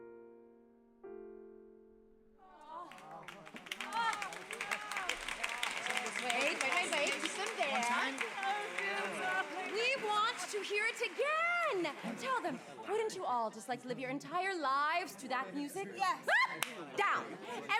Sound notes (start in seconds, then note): 3.2 applause, excited chatter; 8.2 excited chatter continues